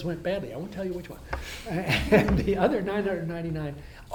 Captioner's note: laughs